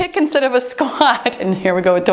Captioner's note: timer beeps